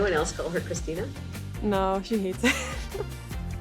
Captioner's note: laughs